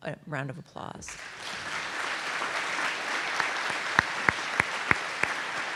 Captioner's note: audience applauding